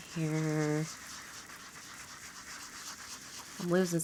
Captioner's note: blending tool scrubbing